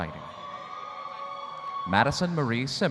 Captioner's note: audience cheering